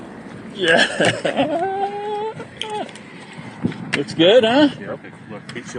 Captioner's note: celebrates